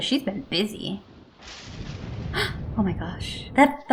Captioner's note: thunder clap